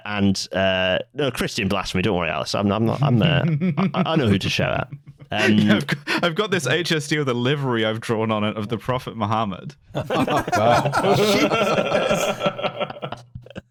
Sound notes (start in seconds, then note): 3.3 chuckles; 6.0 laughing; 9.9 laughter